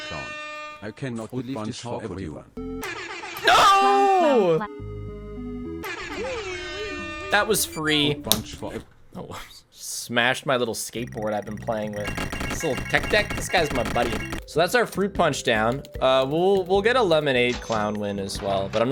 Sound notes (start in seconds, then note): 8.3 smack